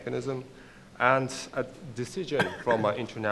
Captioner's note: coughs